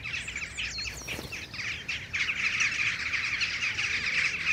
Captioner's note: birds twittering